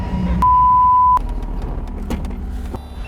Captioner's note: emergency brake cranks; beep